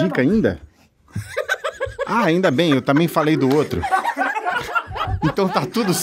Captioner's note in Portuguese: risadas